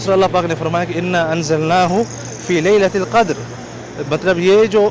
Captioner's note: Arabic